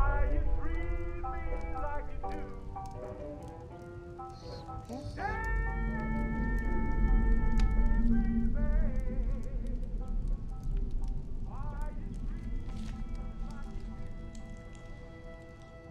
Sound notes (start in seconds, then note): 0.0 gentle music; 9.9 fire crackling